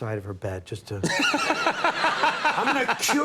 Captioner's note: Conan laughing